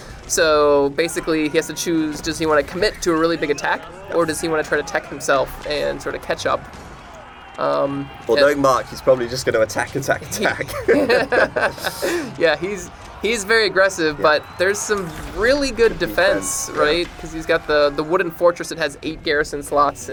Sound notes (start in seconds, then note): 6.7 soldiers yelling